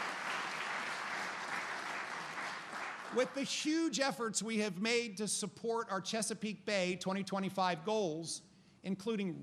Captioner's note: applause